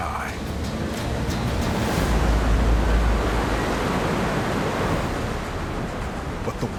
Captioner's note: water rushing